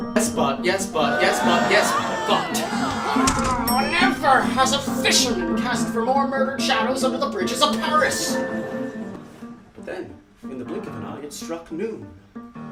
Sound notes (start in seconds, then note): 3.4 elevator ding